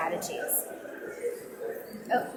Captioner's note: audience mumbling